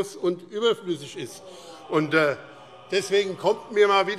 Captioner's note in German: Zurufe Freie Demokraten: Oh!